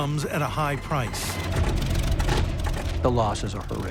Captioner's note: engine sputtering